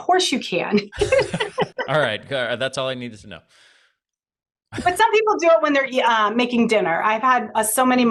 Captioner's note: laughs